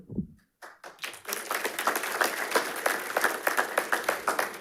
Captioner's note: attendees applauding